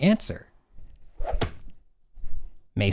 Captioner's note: plap of football hitting hand